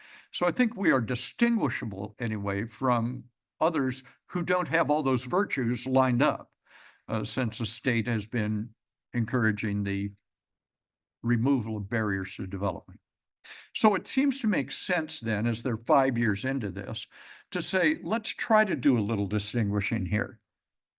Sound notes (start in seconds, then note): none